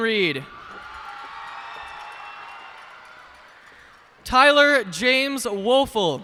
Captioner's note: cheers and applause